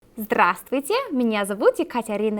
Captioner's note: speaking Russian